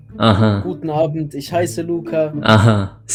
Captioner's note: German